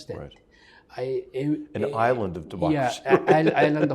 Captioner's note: laugh